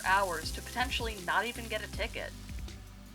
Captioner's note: sizzle; chill music